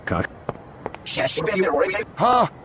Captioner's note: Yuyanese